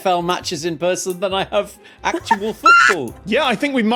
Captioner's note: squawks